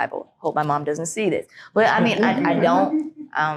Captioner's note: group laughing